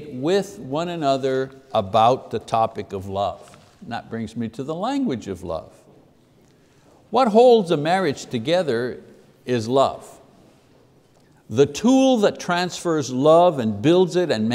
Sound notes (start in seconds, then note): none